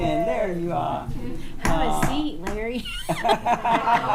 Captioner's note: tapping table; attendees laughing